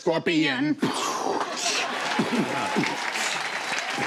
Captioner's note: cheers and applause